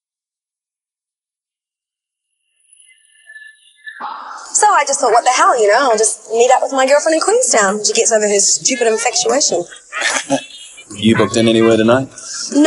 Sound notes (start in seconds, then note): 9.6 Graham chuckles